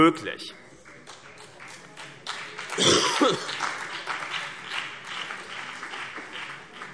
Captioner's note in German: Beifall CDU und BÜNDNIS 90/DIE GRÜNEN